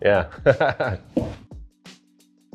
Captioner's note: laughs; chill beat